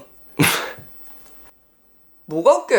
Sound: laugh

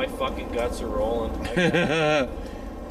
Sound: laughter

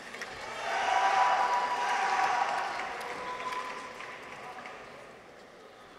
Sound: audience applauds; people cheer

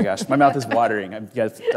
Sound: both laughing

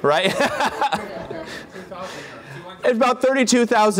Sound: laughter

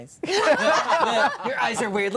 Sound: all laughing

